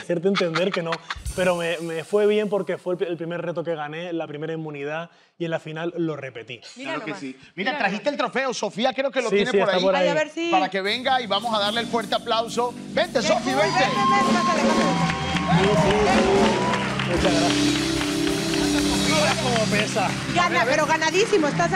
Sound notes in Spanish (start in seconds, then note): 13.8 Ovación